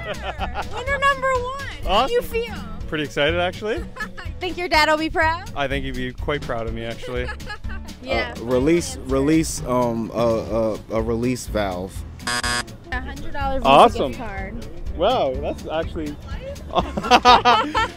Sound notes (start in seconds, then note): 12.2 buzzer; 16.4 laughs